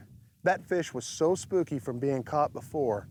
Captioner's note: none